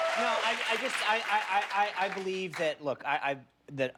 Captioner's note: cheers and applause